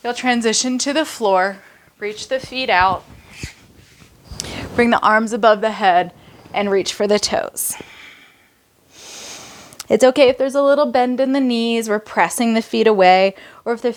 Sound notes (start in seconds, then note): 7.6 breaths heavily